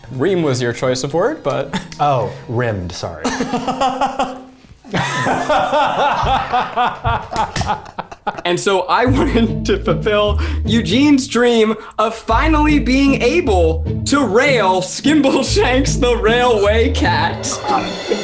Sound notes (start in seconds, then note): 3.3 laughing